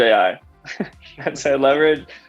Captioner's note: both chuckles